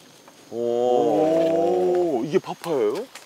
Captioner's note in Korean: 감탄